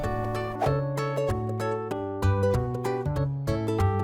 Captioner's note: image whooshing; bright music